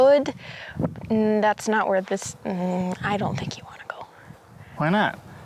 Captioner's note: whispering